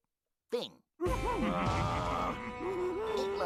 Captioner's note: both grunting